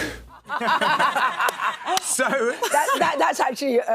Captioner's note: laughs